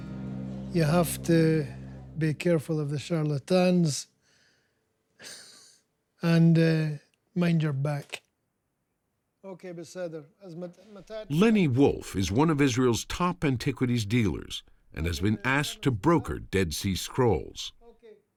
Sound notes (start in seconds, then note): 4.7 chuckles; 8.7 speaking Hebrew